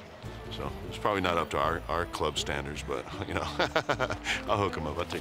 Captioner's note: laugh